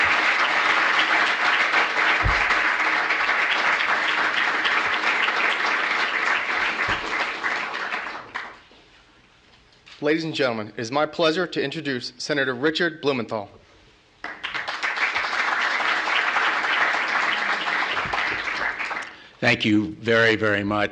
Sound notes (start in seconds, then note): 4.3 applause